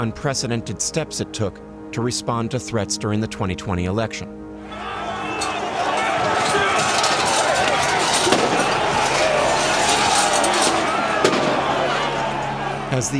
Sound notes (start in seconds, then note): 3.1 crowd clamoring aggressively; 4.9 people shouting; 7.2 weapon firing; 7.9 people shouting and yelling; 11.2 weapon firing, siren wailing